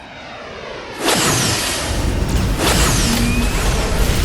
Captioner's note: beams whooshing